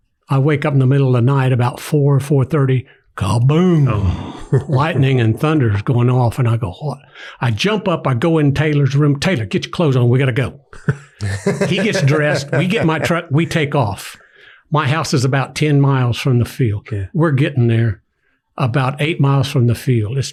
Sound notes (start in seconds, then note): 10.7 laughs